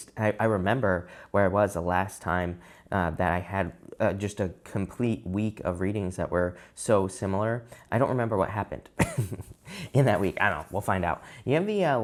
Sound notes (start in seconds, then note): 9.0 chuckles